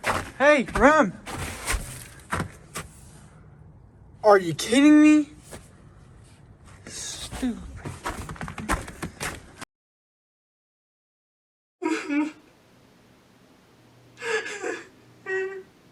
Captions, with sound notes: Hey! Rem! Are you kidding me? Stupid! [Crying]